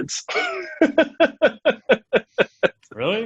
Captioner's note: laughs